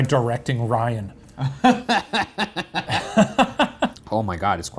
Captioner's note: laughing